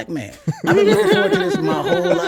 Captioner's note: laughs